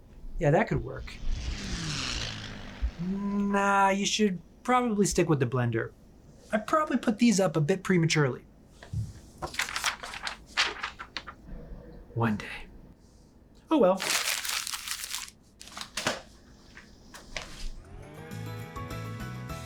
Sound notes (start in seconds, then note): 9.4 paper crinkling; 14.0 crinkling